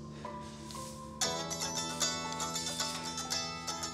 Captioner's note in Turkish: Telefon çalıyor